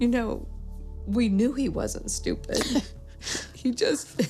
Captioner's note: laughs